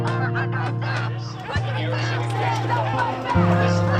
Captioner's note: crowd chanting in background